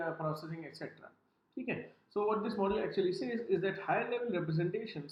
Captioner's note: professor speaking in Hindi